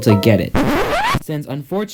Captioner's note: record scratching